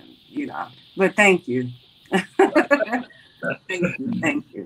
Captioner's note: laughs